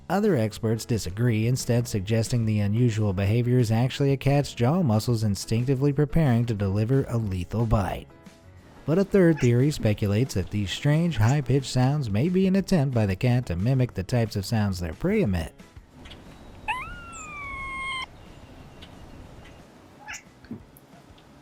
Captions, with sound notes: Other experts disagree instead suggesting the unusual behavior is actually a cat's jaw muscles instinctively preparing to deliver a lethal bite but a third theory speculates that these strange high pitch sounds may be an attempt by the cats to mimic the types of sounds their prey emit. (cat chattering)